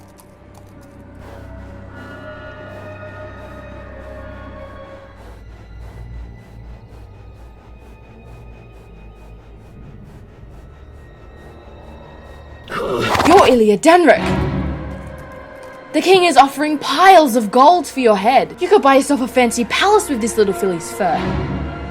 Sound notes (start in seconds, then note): 12.5 stallion snorts